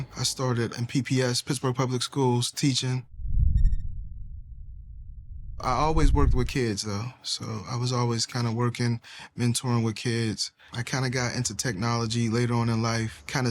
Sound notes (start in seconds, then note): 3.5 electronic rattling